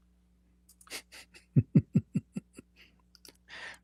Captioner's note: Ketawa